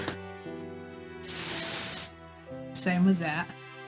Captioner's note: plastic bag rustling